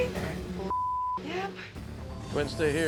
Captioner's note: beep